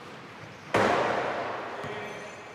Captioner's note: thud